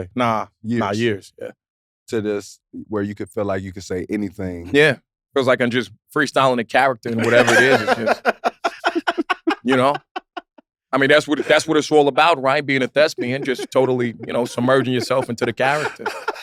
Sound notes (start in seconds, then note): 7.0 laugh